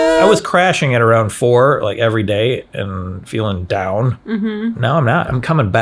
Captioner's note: none